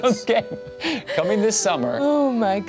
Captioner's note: laughs